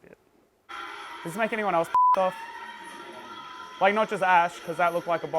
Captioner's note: beep